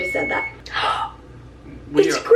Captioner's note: gasps